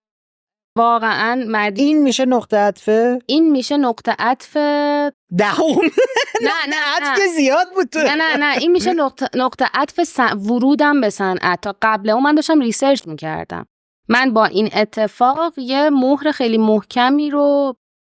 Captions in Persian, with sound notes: واقعاً مدیو... - این می‌شه نقطه‌عطفه؟ - این می‌شه نقطه‌عطفِ... - دهم! (خنده) نقطه‌عطف که زیاد بود توی... - نه نه نه. این می‌شه نقطه‌عطف ورودم به صنعت. تا قبلِ اون من داشتم ریسرچ می‌کردم. من با این اتفاق یه مُهر خیلی محکمی رو